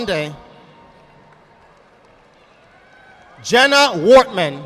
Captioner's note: audience applauding